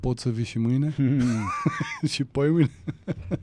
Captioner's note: laughter